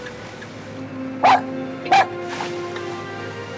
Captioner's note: dog barking